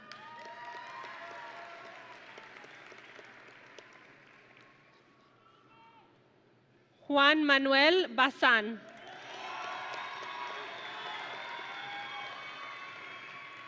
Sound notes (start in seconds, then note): 0.0 audience and graduates applauding; 8.9 audience and graduates cheering